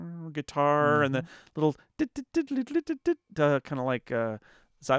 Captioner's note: imitates guitar